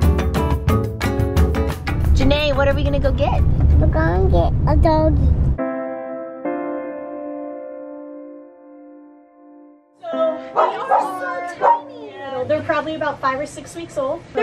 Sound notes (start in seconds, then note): 5.6 light music; 11.6 dog barking